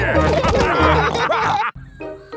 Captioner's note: all laughing